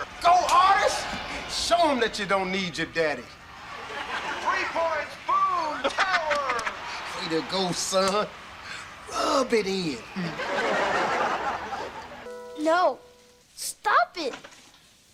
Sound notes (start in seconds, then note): 10.0 audience laughter